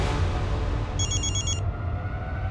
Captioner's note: phone rings